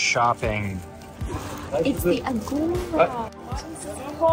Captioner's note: gasps